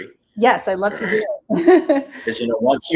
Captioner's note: chuckles